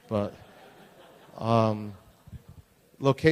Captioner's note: laughter